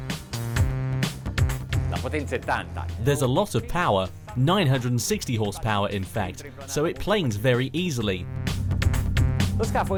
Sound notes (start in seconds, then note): 0.1 funky music; 2.2 man speaks in foreign language; 8.4 funky music